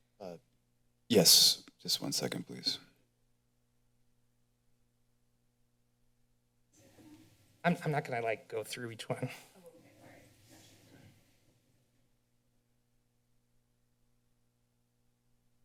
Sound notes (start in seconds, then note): 2.9 silence; 11.3 silence